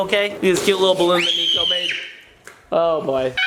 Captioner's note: screaming